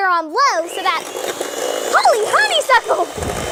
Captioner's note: egg beater zooms